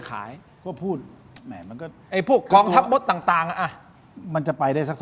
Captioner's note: laughs